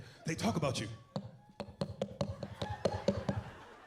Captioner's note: knocking